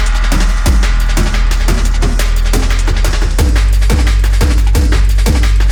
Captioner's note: echoes